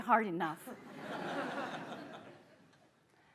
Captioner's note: laughter